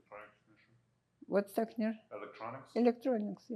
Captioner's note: russian